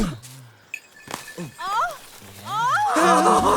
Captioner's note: woman groans